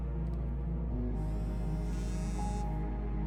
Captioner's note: phone buzzes